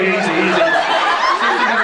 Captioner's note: laughs